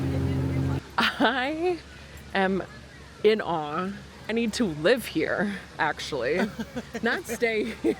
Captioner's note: laughs